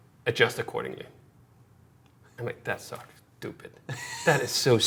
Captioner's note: laughing